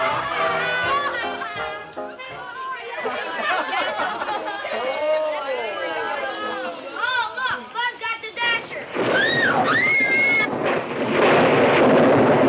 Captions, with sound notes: (group chatter) - Oh look Buzz got the dasher. (thunder claps)